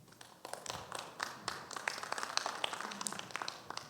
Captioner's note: audience applauds